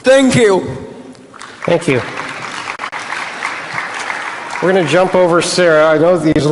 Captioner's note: applause